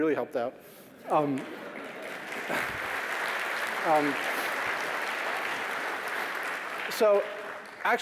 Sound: applause

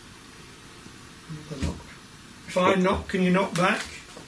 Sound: soft thumping

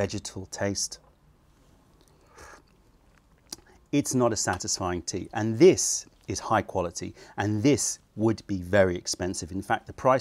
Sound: sips tea

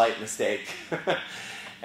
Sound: laugh

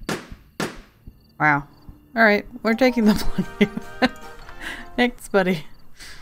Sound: laughs

